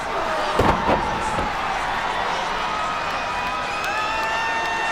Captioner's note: spectators cheering